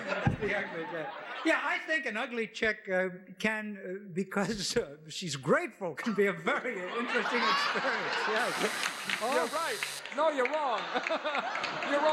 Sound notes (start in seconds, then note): 0.0 laughs; 8.4 alarm buzzes